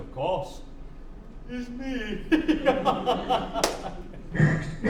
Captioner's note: laughs